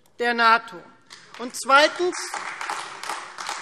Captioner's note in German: Beifall Freie Demokraten und AfD